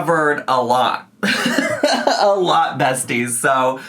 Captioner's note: laughs